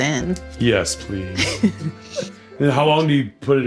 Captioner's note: laughs